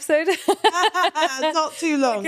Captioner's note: laughing